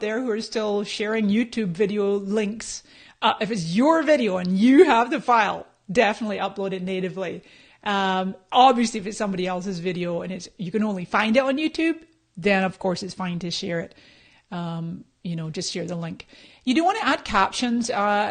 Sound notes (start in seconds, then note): none